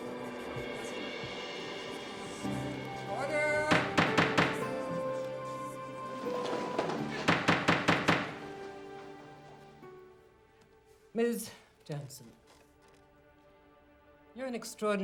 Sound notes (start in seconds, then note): 3.2 gavel banging